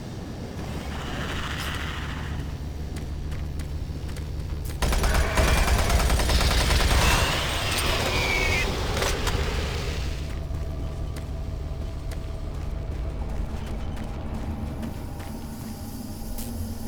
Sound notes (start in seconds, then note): 0.2 gunshots; 6.9 gunshot